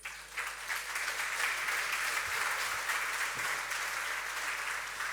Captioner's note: audience clapping